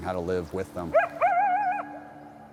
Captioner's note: coyote howling